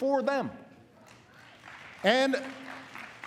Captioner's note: applause